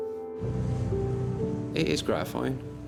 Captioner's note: boat engine revving